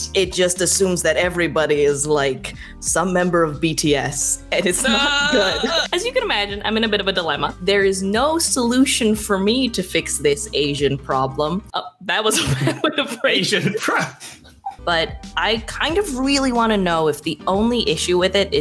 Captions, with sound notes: - It just assumes that everybody is some member of BTS, and it's not good. (groans) As you can imagine, I'm in a bit of a dilemma. There is no solution for me to fix this Asian problem. Oop, that was (laughs) a bad way to phrase. - Asian prob. (laughs) - But I kind of really wanna know if the only issue with it